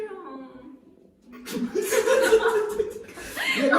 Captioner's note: laughter